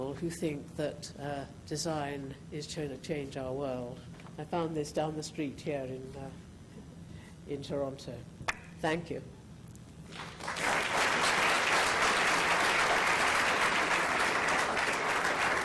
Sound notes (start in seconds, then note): 10.1 applauding